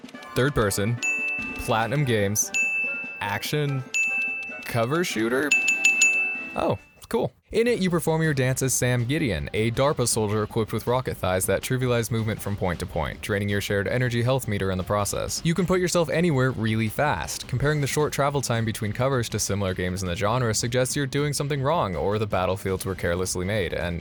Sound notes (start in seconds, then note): 5.4 ding Ding Ding